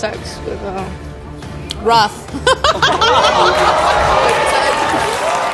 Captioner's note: laughs